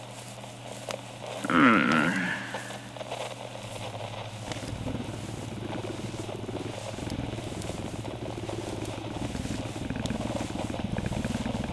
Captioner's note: happy groans and purrs